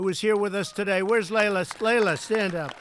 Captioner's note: applause